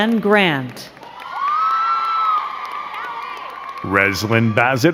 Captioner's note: crowd cheering and clapping